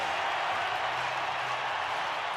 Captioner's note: crowd cheering